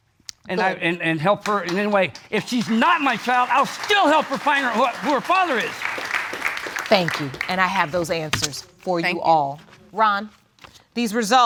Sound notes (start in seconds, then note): 5.5 audience claps